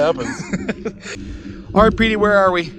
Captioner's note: laughing